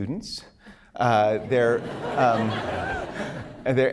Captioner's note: laughter